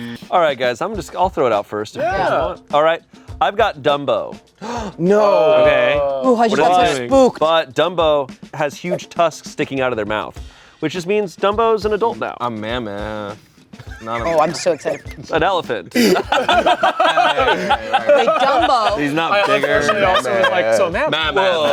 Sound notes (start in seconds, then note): 4.6 gasps; 15.9 everyone laughs